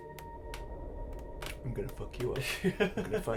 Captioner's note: laughs